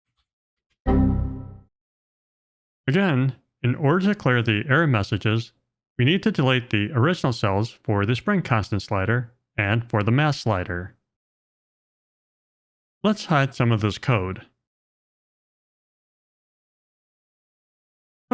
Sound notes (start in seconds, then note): 0.9 computer error sound